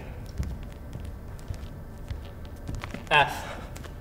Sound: footsteps

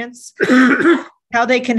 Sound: coughs

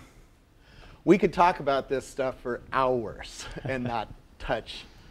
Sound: laugh

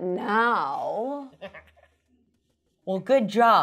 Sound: giggles

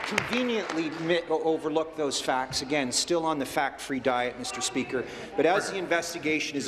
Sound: applause

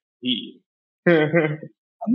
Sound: laughter

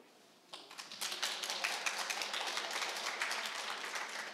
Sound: crowd applauding

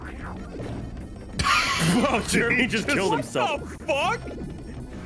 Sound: laughs

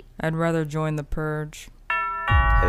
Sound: doorbell rings

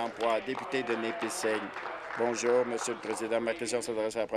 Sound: applause

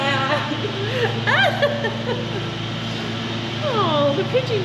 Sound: laughing

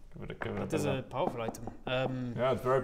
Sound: knock knock knock

